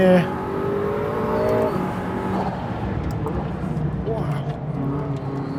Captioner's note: engine revving; engine revs